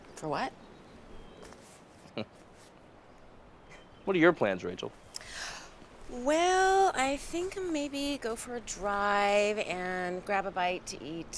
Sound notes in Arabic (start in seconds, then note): none